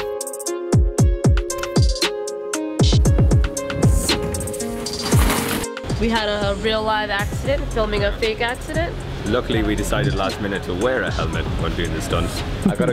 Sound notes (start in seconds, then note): 3.8 crashing